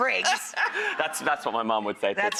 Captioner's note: laughter